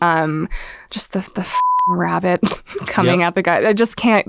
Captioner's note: beep